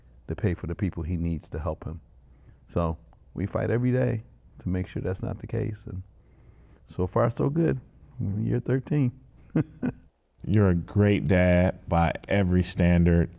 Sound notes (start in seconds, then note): 9.4 laughs